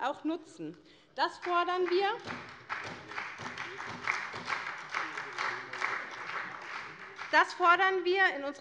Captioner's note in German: Beifall bei : Hört, hört!